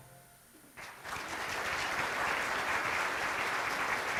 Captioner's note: applause